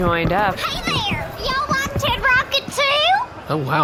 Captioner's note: chipper